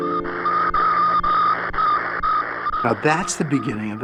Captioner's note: beeping